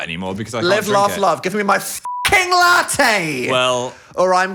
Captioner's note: beep